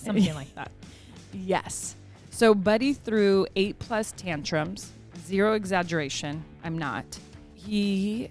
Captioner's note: laugh